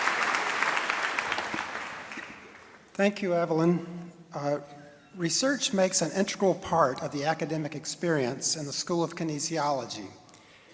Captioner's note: applause and cheering